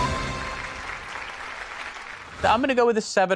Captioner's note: applause